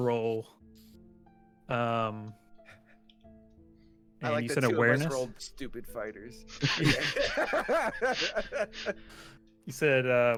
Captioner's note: laughter